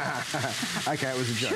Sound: laughter

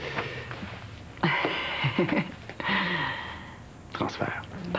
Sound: Rire

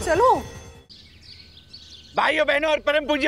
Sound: birds chirping

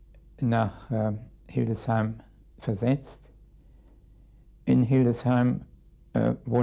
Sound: speaking in a foreign language

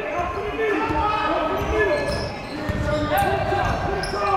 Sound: shouting

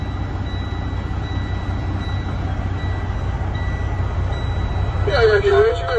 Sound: dinging and engine rumbling

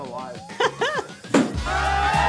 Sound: granny laughing; crowd cheering

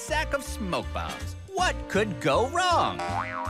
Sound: boing

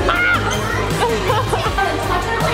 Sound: laughing

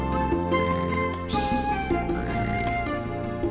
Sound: snoring

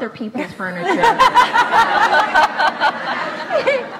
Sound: laughs

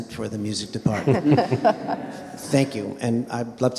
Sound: attendees chuckle

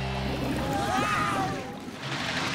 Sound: screaming

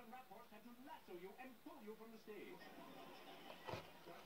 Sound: tv noises

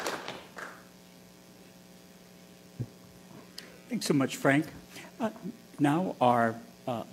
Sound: applause

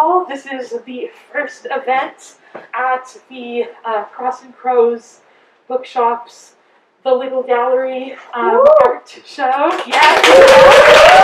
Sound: applause

